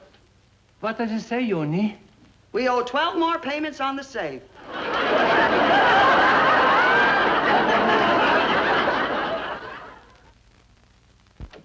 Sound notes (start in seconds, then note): 6.9 audience laughing